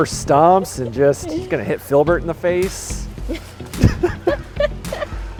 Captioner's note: laughs